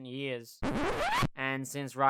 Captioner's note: record scratch